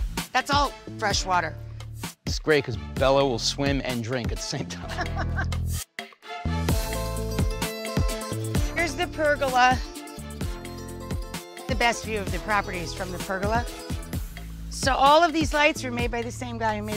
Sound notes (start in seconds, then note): 4.8 Rachael laughs; 6.4 upbeat music